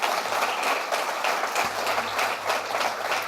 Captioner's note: audience clapping